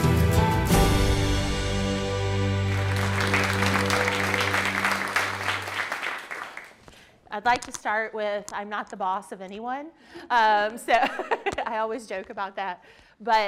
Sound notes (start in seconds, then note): 2.5 participants applauding; 10.4 laughs